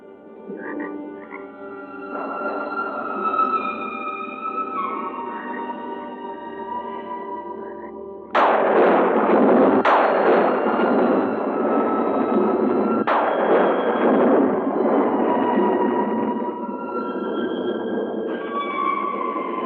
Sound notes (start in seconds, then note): 0.2 suspenseful music; 8.2 thunder crashing